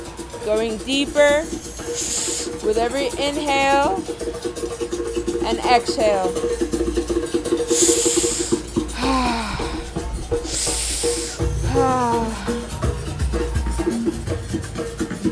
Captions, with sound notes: Going deeper with every inhale and exhale. [rhythmic drumming] [heavy, rhythmic breathing]